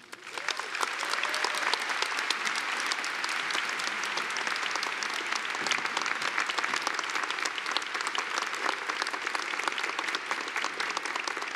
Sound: applause

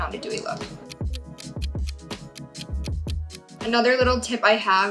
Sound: clock ticking

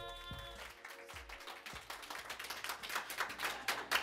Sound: all clapping

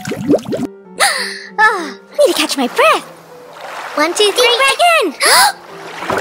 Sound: gasp

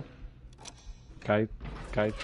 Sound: weird spooky noises; joe biden stutter

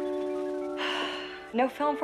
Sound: sighs

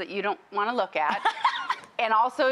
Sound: giggling

